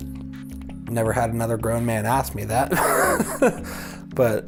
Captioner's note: laughs